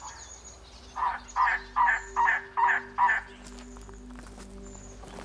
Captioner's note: trogon chirps